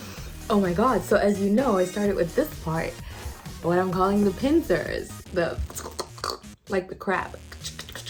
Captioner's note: crab claw sounds